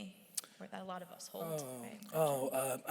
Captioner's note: voice softens